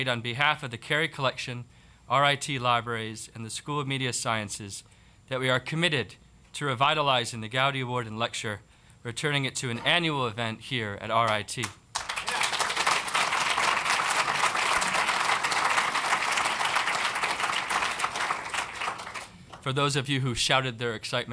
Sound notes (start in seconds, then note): 11.8 applause